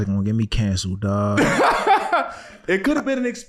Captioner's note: laughing